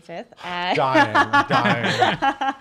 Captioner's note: laughter